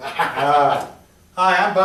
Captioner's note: laughter